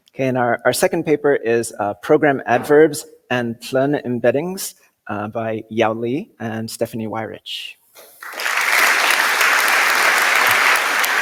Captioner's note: applause